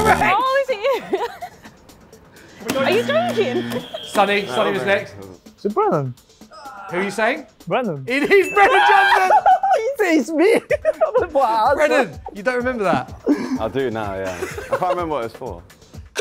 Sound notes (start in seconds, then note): 8.7 cheering